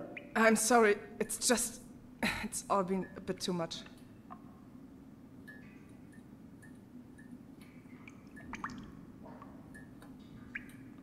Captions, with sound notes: I'm sorry. It's just… *cough* it's all been a bit too much.